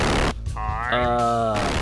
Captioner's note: glitching noise